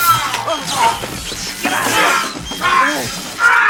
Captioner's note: electricity zapping; groaning